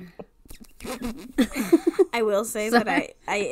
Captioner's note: sputters